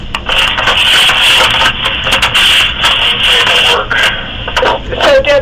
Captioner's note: static